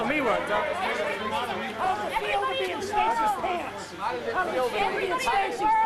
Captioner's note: chatter